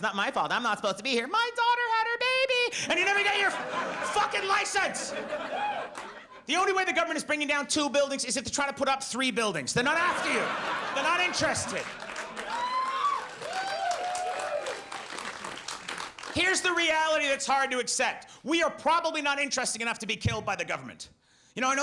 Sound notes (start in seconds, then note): 9.8 audience laughs; 13.9 audience cheers